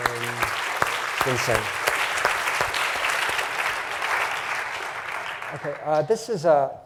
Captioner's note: applause